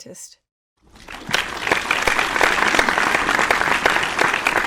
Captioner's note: audience applauds